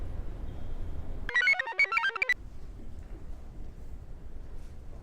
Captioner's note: computer chirps